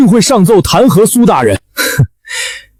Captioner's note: snort